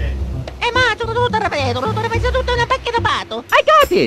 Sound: italian speak

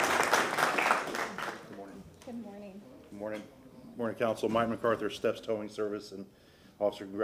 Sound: applause

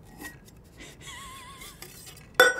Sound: Madelyn laughing; glasses clinking

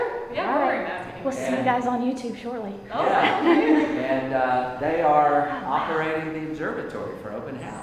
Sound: laughing

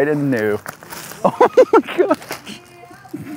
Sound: chuckles; laughs

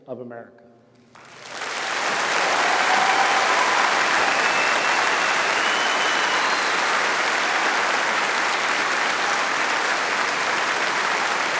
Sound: audience applauding

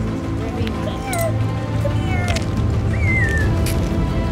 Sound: whistle

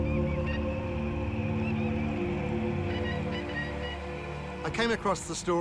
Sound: ominous music; birds squawk

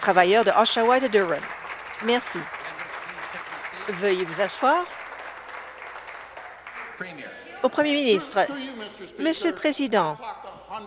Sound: applause

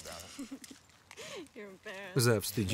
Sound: laughs loudly

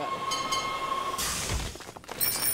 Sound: train whistle toots

